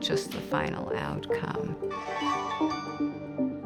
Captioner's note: computer dings